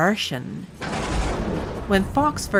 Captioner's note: thunder clap